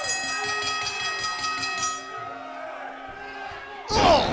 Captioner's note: bell ringing